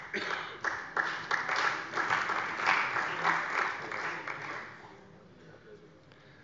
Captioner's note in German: Beifall bei der CDU